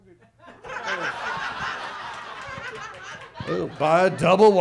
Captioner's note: audience laughs